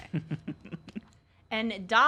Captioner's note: giggles